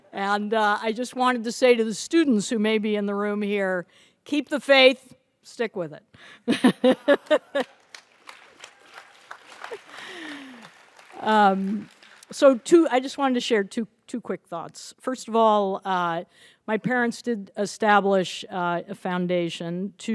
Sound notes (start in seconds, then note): 6.4 laughs; 7.1 audience applauds